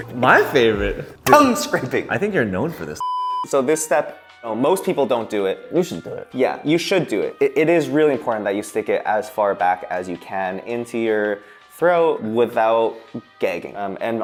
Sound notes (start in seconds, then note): 3.1 TV beeping